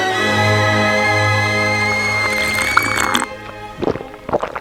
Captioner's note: teapot whistling